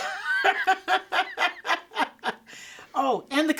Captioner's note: laughing